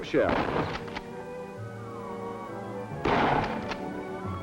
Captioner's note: gunshots